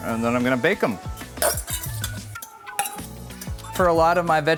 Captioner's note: bowl scraping